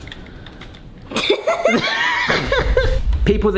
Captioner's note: both laughing